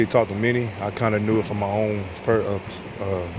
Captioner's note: stammers